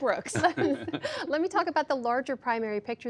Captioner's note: laughter